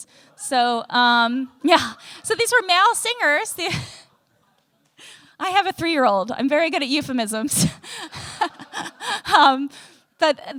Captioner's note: laughter